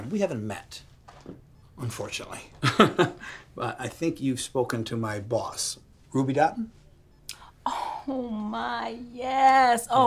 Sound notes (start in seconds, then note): 2.6 chuckles